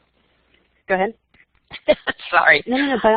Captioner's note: laugh